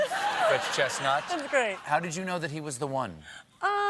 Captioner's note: laughter